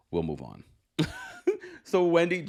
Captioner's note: chuckling